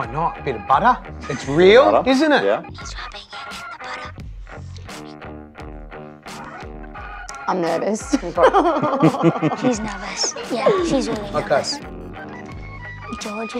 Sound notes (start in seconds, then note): 8.0 laughs